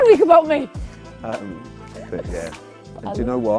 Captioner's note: laughter